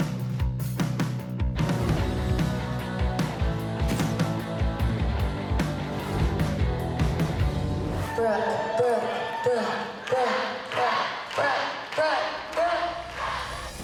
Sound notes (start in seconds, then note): 1.6 upbeat music playing; 8.1 audience chanting